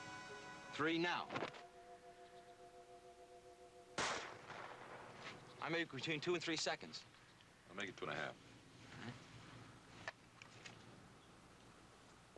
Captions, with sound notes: THREE. NOW! ( gunshot sound ) I MAKE IT BETWEEN TWO AND THREE SECONDS. WE'LL MAKE IT TWO AND A HALF. ALL RIGHT.